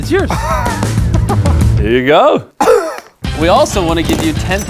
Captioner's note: recipient laughing